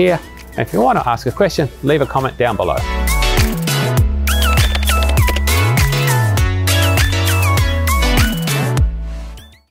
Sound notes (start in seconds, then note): 3.0 upbeat instrumental music; 4.3 keyboard clicks